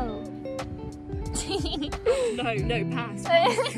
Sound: laughter

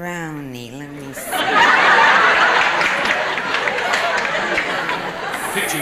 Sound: audience laughing and clapping

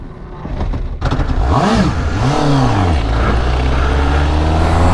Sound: engine starts and revs

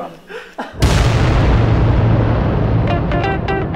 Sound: laughs; explosion; upbeat music

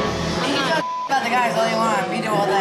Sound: beep

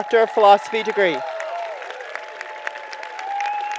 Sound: applause

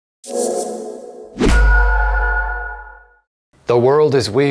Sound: mysterious ping

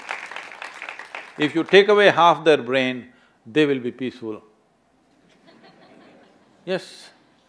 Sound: few laugh

